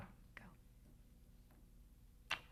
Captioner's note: kiss